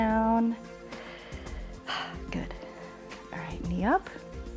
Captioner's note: inhales and exhales